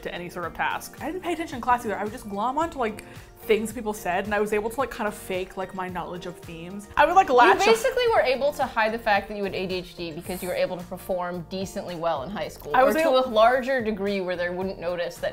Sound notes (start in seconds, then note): none